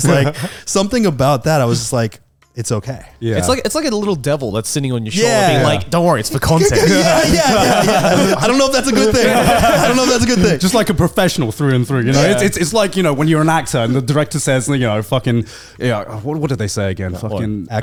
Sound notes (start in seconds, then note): 6.4 all laughing